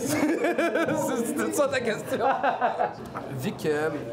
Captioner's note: laughs